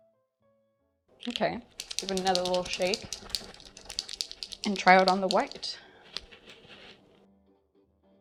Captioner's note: pen shaking noises